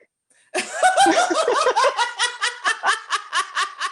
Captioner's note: laughter